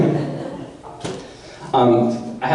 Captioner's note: audience laughter